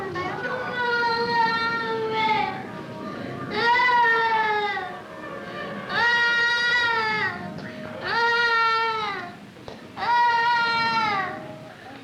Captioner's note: crying